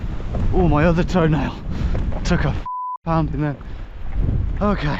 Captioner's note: beep